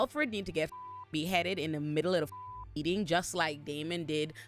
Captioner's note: beep